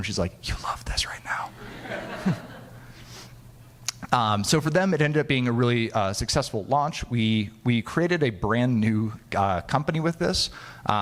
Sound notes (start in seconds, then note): 1.6 audience laughing